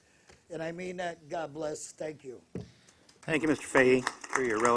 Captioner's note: applause